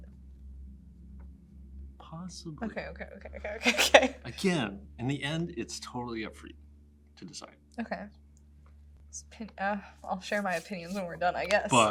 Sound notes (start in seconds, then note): 3.4 chuckles